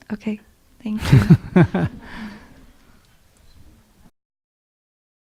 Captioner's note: Sunim laughter